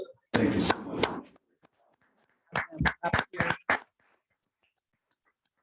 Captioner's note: congregation clapping